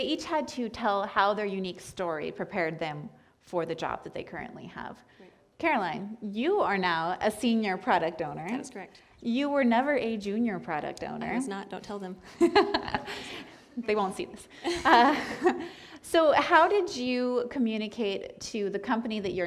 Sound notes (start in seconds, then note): 12.3 laughter